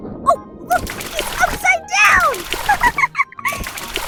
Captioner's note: laughs